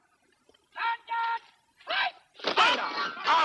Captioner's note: shouting continues